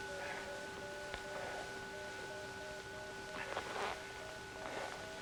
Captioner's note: Dr. Perry panting